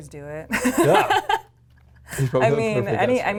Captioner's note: laughs